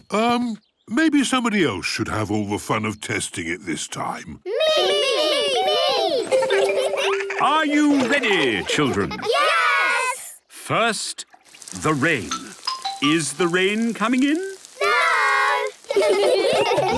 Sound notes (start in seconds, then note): 4.4 laughter; 15.8 laughter